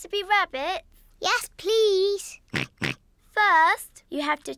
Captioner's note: snorts in agreement